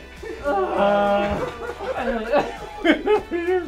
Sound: laughing

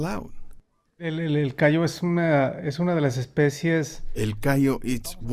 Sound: speaking Spanish

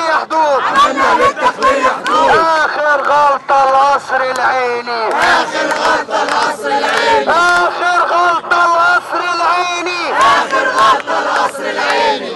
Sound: chants

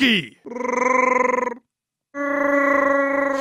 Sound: growls

